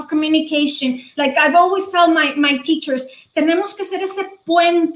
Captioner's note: speaking foreign language